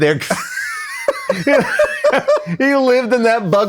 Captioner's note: laughing